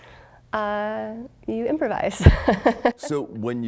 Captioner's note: laughing